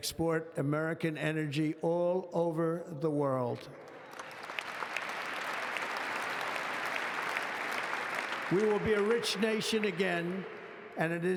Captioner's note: applause